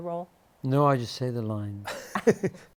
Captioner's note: laughter